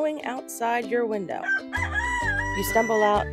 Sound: background music; rooster crowing

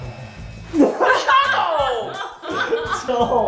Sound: all laughing

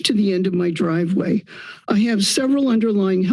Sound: inhales

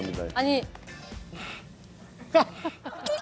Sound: laughing

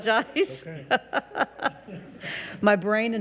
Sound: and regents laugh

